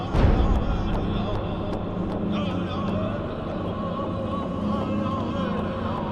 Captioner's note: solemn music; Indians continue chanting